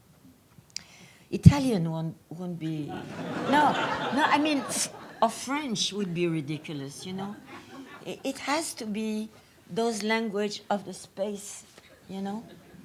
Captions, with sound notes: Italian won't be-- (audience laughs) Now I mean or French would be ridiculous you know? It has to be those language of space, you know?